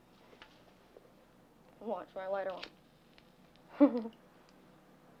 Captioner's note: giggles